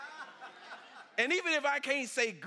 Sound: congregation laughs

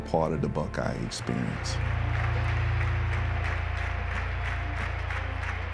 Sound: audience clapping

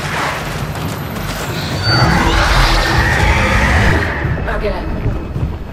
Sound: growling

